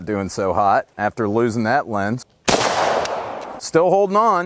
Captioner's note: gunshot